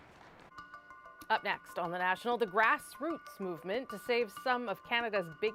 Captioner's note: applause